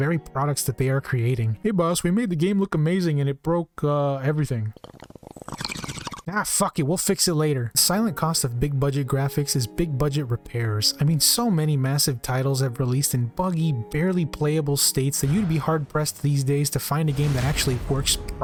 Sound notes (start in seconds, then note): 4.6 "Tobacco water pipe" being ripped